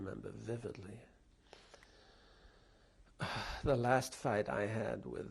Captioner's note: pauses for 3 seconds